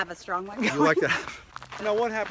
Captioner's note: laughs